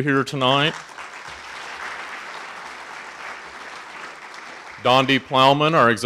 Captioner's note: audience applauding